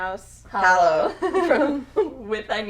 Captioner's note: women laughing